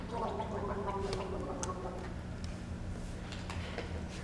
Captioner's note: Bianca gurgling